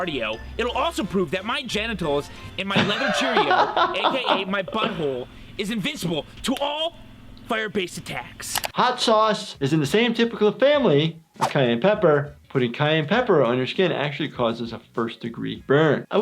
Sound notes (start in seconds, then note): 2.7 laughs